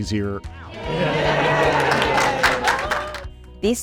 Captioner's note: cheers and clapping